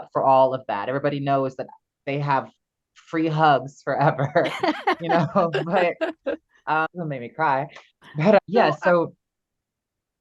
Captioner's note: laughs